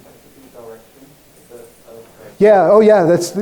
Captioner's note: man speaks softly